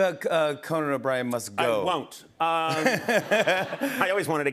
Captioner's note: laughter